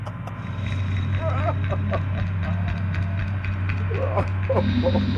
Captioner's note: Hans chuckling